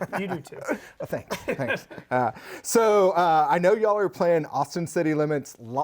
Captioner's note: laughter